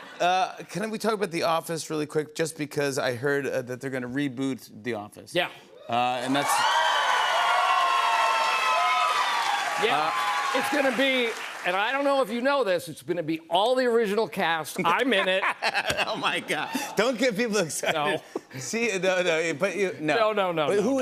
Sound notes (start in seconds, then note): 6.0 cheers and applause; 14.8 laughing